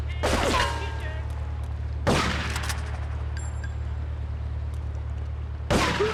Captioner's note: gunshots